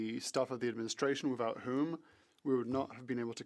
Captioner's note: speaking French